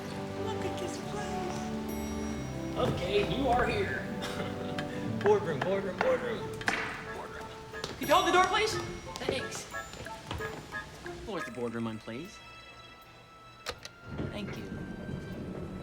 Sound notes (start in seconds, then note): 13.2 click